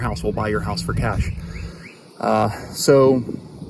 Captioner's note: birds chirping